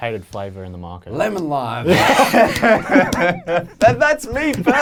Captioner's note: laughing